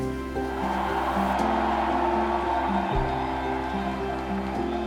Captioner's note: crowd cheering